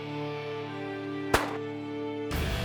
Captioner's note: gun shot